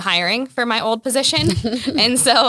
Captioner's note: laughs